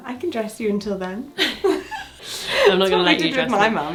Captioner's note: laughing